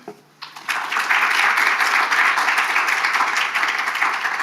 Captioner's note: attendees applauding